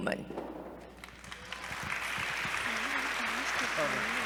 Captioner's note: applause